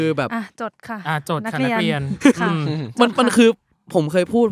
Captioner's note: laugh